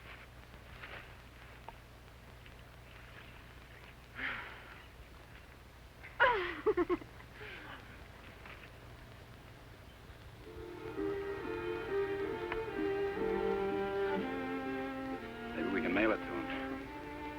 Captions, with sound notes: (giggles) (gentle instrumental music) - Maybe we can mail it to him.